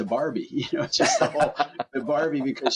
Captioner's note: laugh